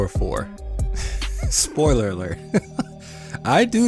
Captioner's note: laughs